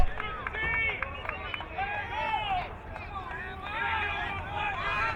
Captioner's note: crowd cheering